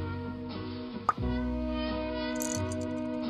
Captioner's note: smacks lip; figure rattles